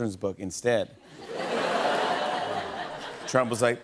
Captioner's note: laughter